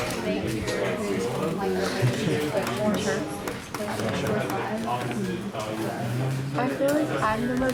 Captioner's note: multiple students speaking in the background